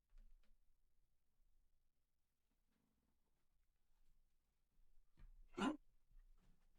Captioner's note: silence